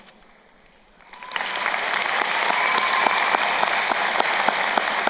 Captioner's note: crowd applauding